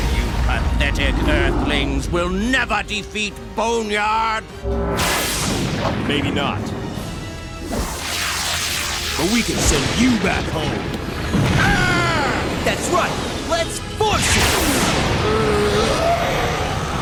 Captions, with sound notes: You pathetic earthlings will never defeat Boneyard. Maybe not. (energy zapping) But we can send you back home. That's right. Let's force it!